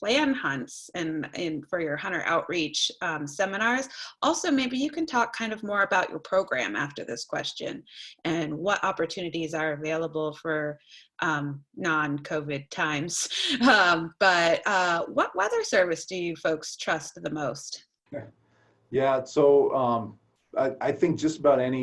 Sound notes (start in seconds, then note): 12.1 laughter